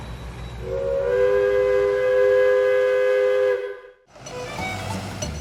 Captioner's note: train whistle blowing